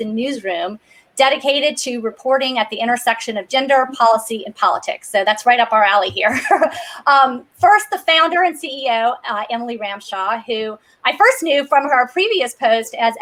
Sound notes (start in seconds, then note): 6.2 chuckles